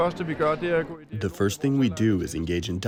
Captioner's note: through translator